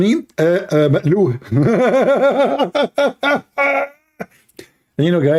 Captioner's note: Ketawa